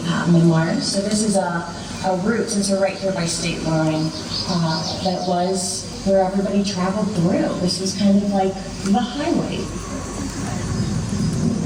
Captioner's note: background ambient sounds in the landscape, sound train whistle